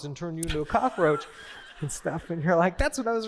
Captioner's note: laughter